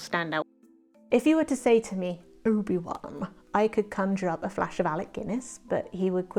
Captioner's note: dramatic voice